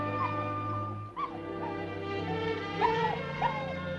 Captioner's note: dog yelping